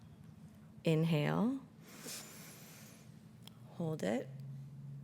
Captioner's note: inhales